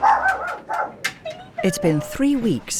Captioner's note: dogs barking